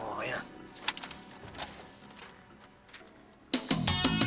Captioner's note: door opens